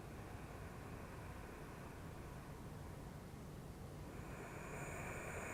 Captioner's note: loud breathing